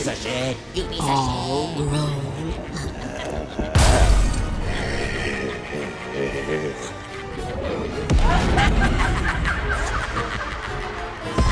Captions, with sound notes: - Piece of shit, you piece of shit. - All grown up. (loud bang) (Little Willy laughing) (woman laughing)